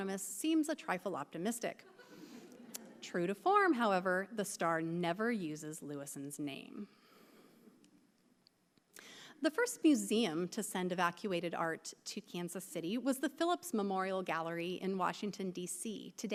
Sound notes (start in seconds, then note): 1.9 audience laughing